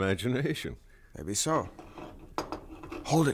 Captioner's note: rattling noise